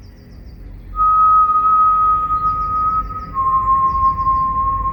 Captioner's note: Hercules whistling